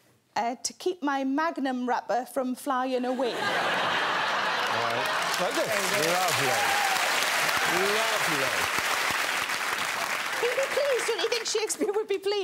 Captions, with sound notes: to keep my Magnum wrapper from flying away. -Like this. -Lovely. Lovely. [applause] He'd be pleased. Don't you think Shakespeare would be pleased